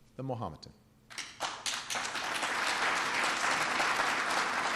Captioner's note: applause